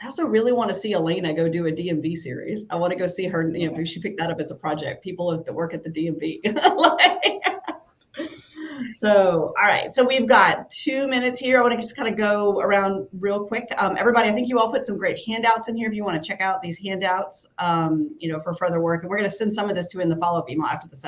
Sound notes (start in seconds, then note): 6.4 laughs